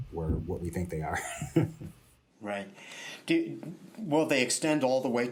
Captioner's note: laughter